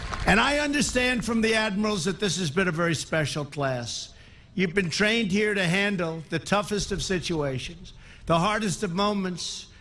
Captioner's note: applause